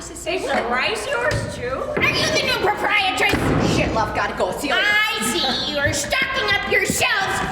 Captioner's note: none